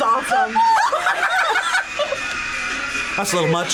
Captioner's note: group laughs